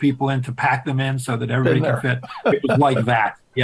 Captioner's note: chuckles